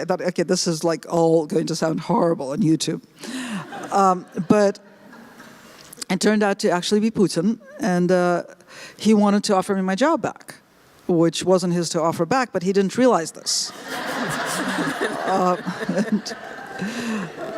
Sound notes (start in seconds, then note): 13.7 laughter